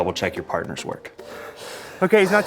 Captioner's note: gasping